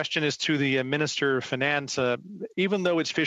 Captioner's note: speaking French